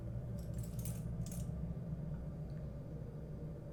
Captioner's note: sound of necklace rattling